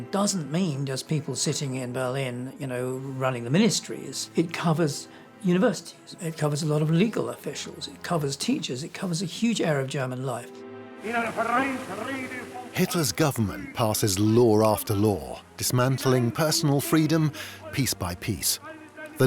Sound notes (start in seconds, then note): 10.8 speaking German